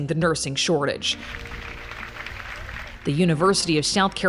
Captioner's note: onlookers applaud